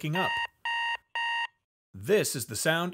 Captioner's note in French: son d'alarme